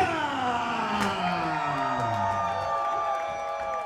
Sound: cheers

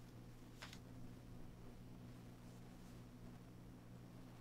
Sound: swimsuit rustles

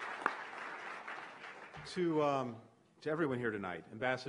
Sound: applause

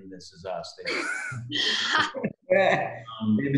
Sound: laughing

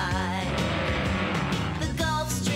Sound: vroom

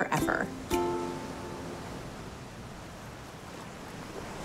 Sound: waves crashing

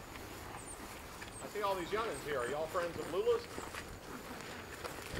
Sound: male Voice

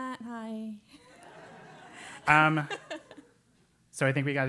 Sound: laugh

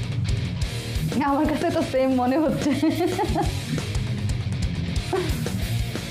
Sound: laughter

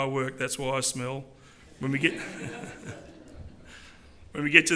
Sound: laughter

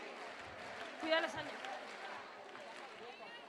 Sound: voiceover

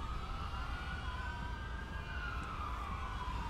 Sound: police sirens

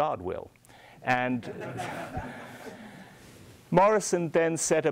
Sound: audience laughing

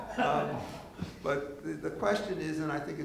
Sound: laughing

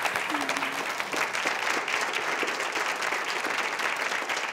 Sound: audience claps

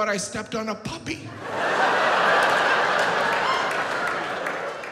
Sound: audience laughs

